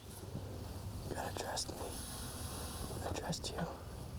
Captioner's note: quietly